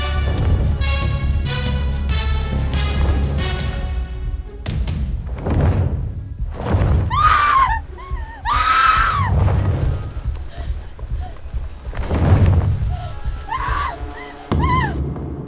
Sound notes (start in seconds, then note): 5.9 feathers flap; 7.0 Connie screams